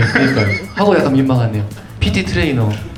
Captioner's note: chuckle